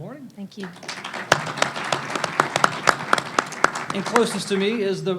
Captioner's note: panelists and audience applaud